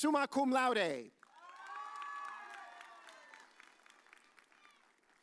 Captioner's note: audience cheers